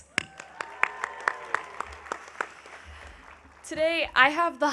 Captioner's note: audience cheering